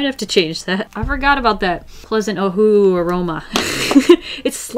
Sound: laughs

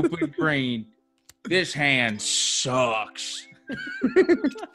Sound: laugh

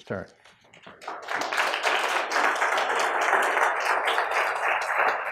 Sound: applause

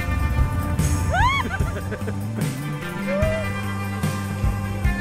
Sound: laughing loudly

